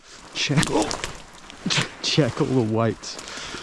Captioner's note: branch snapping